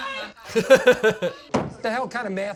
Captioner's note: laughs